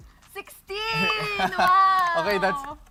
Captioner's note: laughs